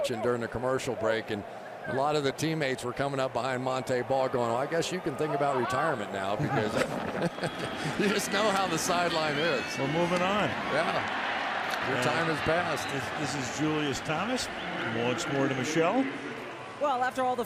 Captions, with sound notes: We were watching during the commercial break. And a lot of the teammates were coming up behind Montee Ball, going, I guess you can think about retirement now because-- [laughs] you just know how the sideline is. We're moving on. Yeah. Your time has passed. Is this Julius Thomas? Once more to Michele.